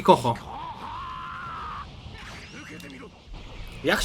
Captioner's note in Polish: krzyk; pomruk